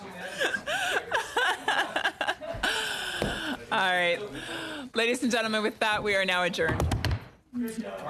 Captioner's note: laughter